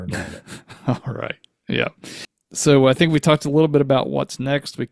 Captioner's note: laughs